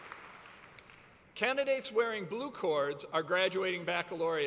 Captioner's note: cheers and applause